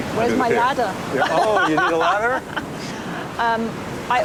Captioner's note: laughs